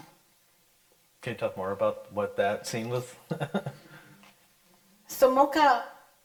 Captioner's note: laughs